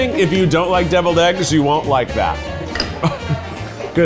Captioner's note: chuckles